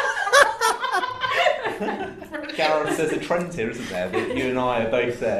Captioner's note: laughter